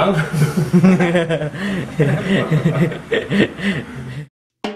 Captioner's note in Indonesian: tertawa